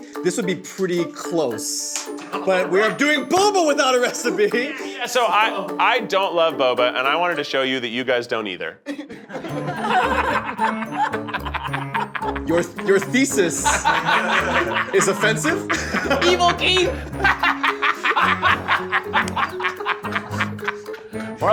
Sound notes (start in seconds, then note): 8.8 laughter; 17.4 Keith laughs maniacally